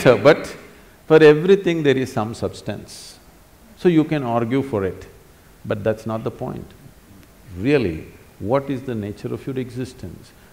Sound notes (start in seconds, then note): none